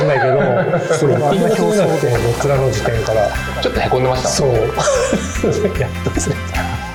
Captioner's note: laughs